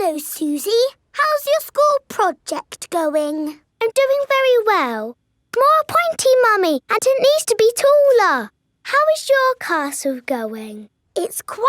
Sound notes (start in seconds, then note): none